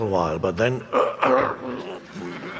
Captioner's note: groans